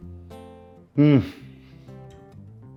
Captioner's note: gasps